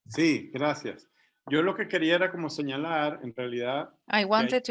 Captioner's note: speaking in Spanish